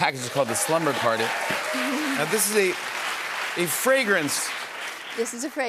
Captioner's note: cheers and applause